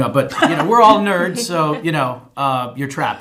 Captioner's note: chuckling